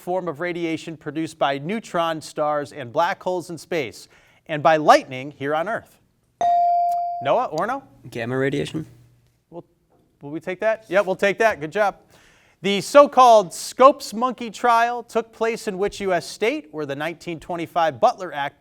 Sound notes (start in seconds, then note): 6.4 bell sounding